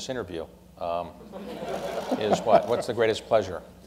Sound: laughter

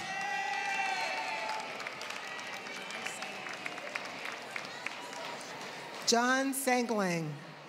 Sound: applause; applause

